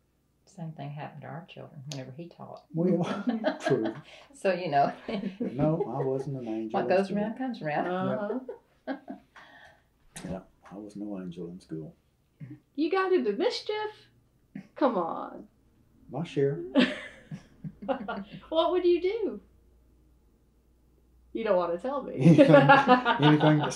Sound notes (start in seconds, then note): 2.8 laughs; 16.7 laughter; 22.2 laughter